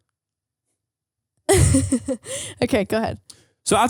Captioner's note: laughing